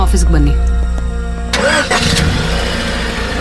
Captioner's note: engine starts